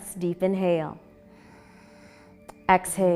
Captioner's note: exhaling; inhaling